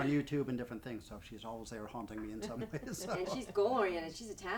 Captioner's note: laughs